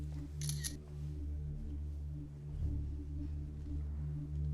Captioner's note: camera clicking